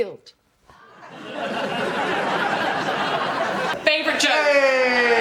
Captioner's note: laughs